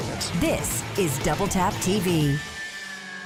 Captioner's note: voiceover